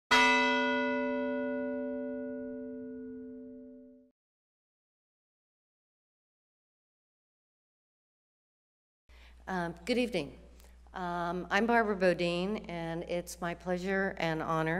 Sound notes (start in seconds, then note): 0.1 bell rings